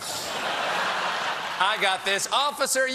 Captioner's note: laughter